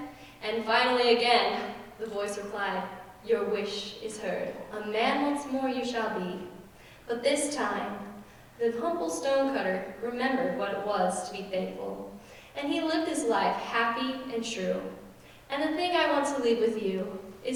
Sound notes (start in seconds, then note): none